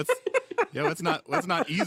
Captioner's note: laughter